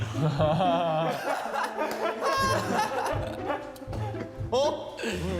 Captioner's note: kekekekeke